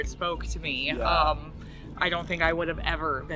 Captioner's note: laughs cheerfully